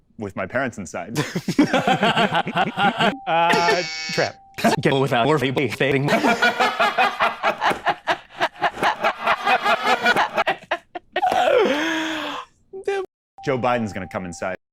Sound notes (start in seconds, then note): 1.2 everyone laughs, normal and reversed; 3.5 buzzer; 6.1 everyone laughs, normal and reversed; 11.4 breathing in